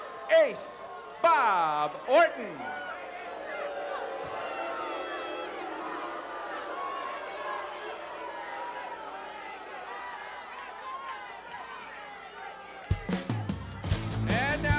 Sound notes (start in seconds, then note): 3.9 audience booing; 13.0 upbeat music